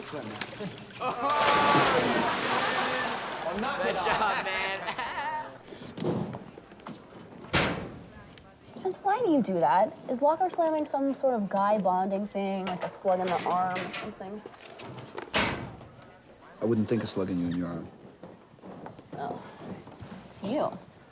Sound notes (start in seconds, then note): 0.9 students laugh; 7.4 locker slams